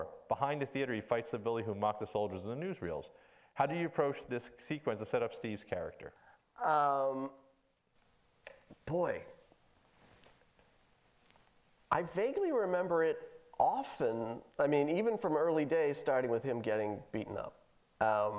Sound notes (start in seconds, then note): none